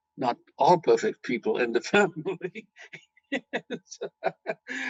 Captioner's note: laughing